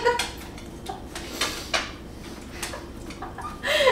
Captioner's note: laughter; Happy Beagle Noises